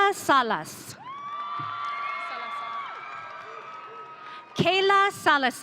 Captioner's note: audience cheering